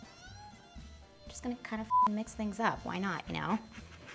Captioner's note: beeps